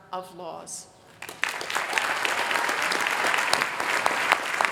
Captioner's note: applause